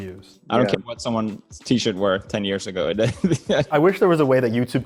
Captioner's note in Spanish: risas